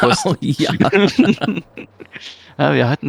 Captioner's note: both laugh and confirm